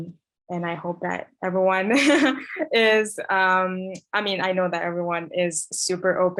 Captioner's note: laughs